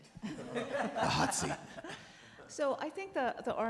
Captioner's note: all laugh